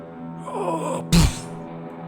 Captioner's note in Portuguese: Grunhidos